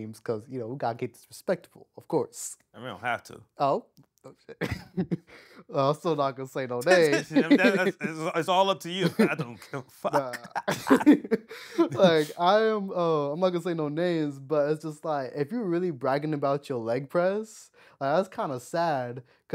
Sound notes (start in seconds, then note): 10.9 laughing